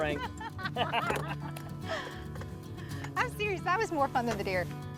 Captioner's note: both laughing together